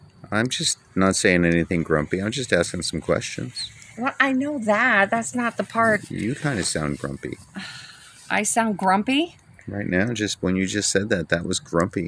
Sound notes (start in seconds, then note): 7.6 sigh